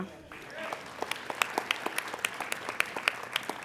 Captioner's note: applauding